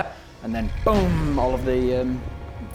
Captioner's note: boom!